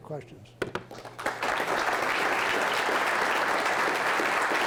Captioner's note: applause